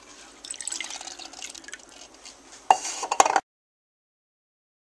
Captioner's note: pouring sound of water